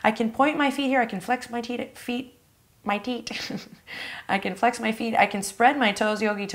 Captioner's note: laughs